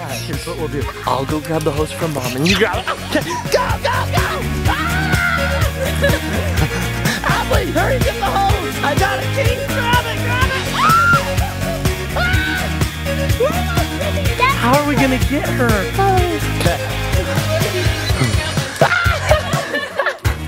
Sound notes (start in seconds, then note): 4.6 screams; 10.7 screaming; 18.9 laughing